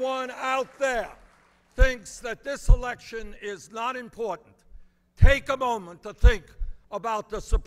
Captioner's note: applause